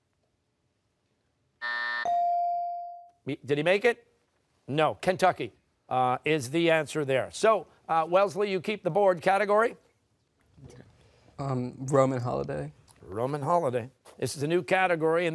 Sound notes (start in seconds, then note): 1.6 buzzer; 1.6 rings in